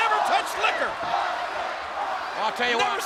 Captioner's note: audience chanting